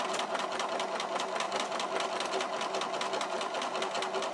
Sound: machine continues

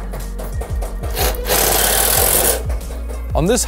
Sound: drill revs

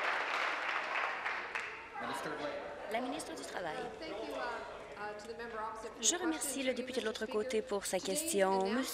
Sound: applause

